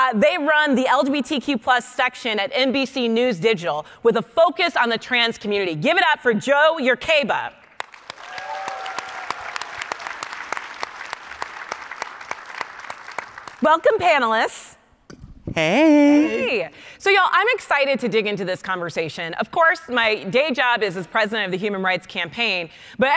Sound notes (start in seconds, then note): 7.7 panelists clapping; 8.0 audience cheering